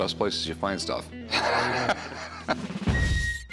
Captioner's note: laughing